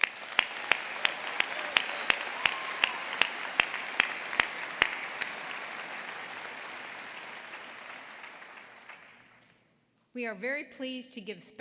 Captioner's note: applause